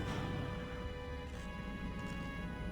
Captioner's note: beeping